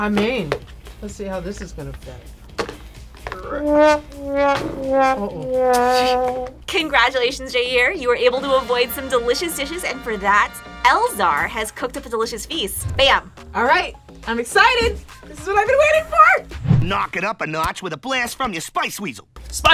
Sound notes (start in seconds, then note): 3.4 sad trombone music; 5.0 laughs